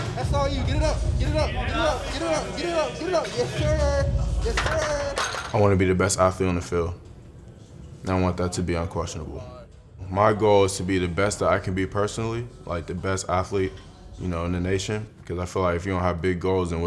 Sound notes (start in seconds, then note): 4.5 weights clattering